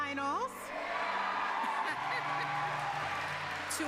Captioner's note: cheers